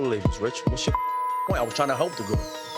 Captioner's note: beep